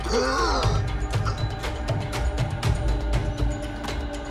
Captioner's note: Marie gasping